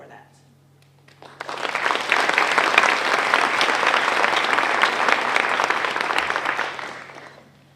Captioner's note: applause